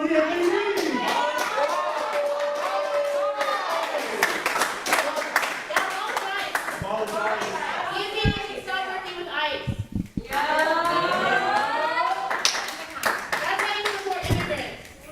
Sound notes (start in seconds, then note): 2.9 cheers and applause